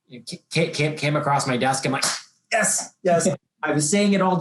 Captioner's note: claps